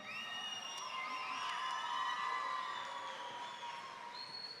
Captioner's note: audience cheering